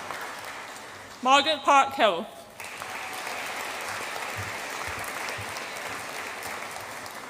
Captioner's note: audience applauds